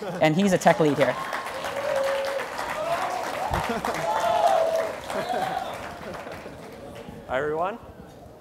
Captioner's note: applause